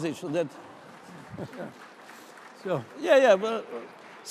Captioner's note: applause